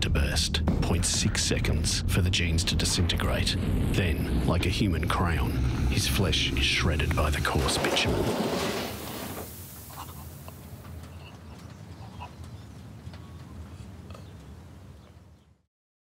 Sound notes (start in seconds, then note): 10.2 driver gasping